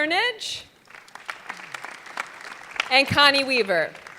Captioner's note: audience clapping